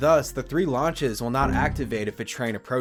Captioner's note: Windows error sound